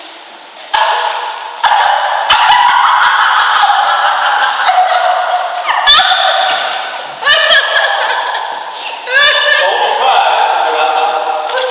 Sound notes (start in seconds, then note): 0.1 laughter; 2.7 weeping